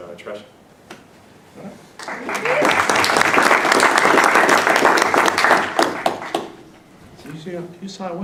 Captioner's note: applause